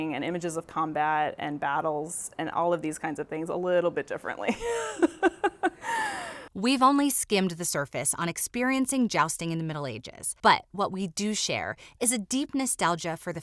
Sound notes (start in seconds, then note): 4.6 laughing